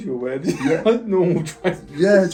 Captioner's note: laughs